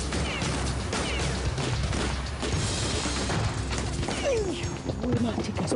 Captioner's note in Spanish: Disparos